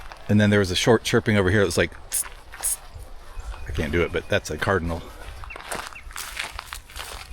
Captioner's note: mimicking bird call